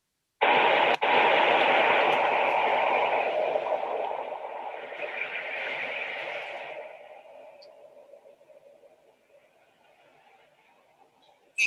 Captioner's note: sound of wind howling